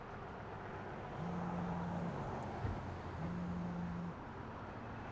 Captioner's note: phone vibrating